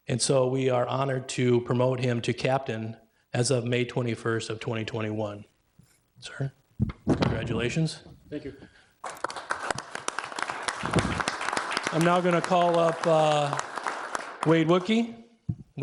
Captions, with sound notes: And so we are honored to promote him to captain as a May 21st, 2021. Sir, congratulations. Thank you. (clapping) I now gonna call up Wade Wudtke, Wade come on up.